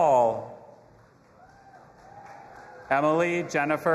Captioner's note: audience applauding and cheering